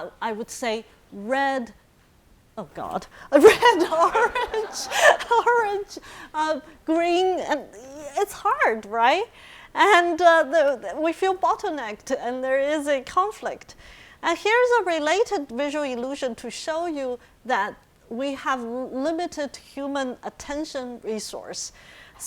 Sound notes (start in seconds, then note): 3.3 laughing; 3.4 audience laughing